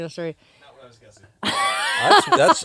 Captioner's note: laughs